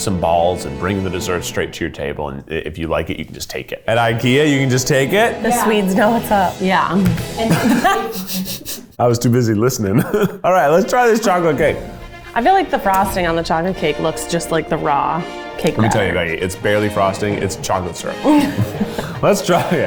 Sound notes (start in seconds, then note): 7.4 both laugh; 7.4 laughs